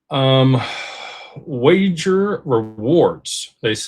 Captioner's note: sighs and gasps